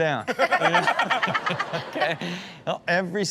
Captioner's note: audience laughs